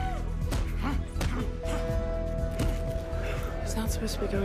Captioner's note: punches thudding; men grunting